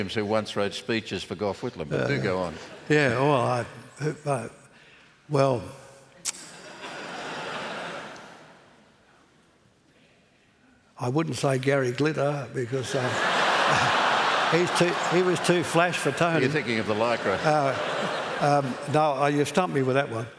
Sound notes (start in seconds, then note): 6.4 laughter; 13.2 laughter